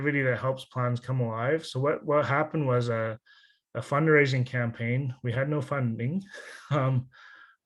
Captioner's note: laughs